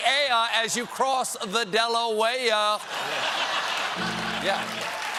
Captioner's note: laughter